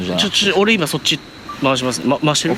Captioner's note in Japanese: 録画音